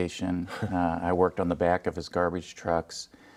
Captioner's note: laughing